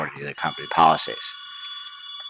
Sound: phone Ringing

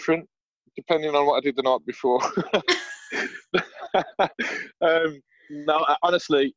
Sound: laughter

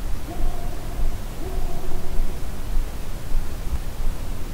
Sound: faint distant barking

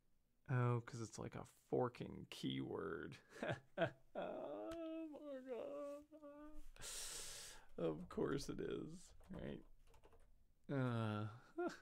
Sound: moaning noises

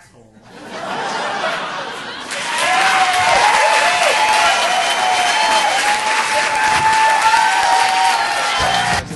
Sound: audience applauding

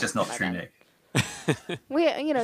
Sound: laughing

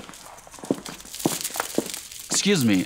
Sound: beads clicking

